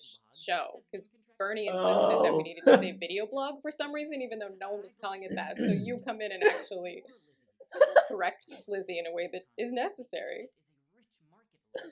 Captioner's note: laughter